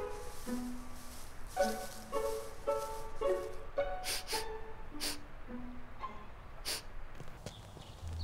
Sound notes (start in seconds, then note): 4.0 sniffing